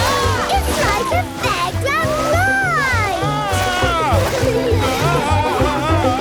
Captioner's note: screams, laughs; screams, laughs